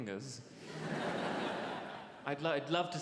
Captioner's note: audience laughs